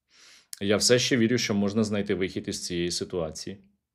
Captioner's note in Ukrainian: сопіння